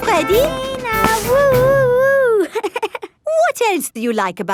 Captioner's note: chuckles